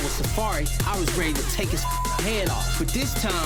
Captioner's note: beep